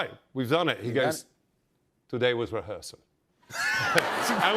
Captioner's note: laughter